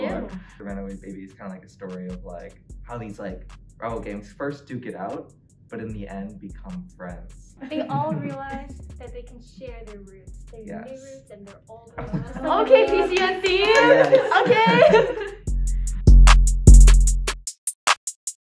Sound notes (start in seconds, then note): 7.6 laughs; 12.0 laughs; 12.8 claps; 15.4 laugh